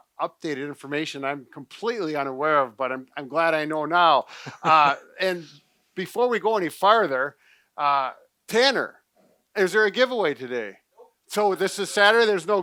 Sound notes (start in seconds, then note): 4.3 laughing